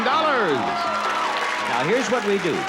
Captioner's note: cheering and applause